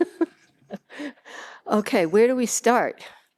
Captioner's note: laughs